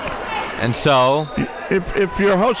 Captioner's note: whistle blows